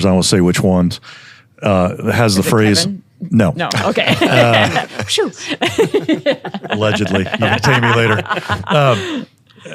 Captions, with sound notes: I won't say which one, has the phrase- - Is it Kevin? - No. - No, okay, pshew. (panel laughing) - Allegedly. See me later.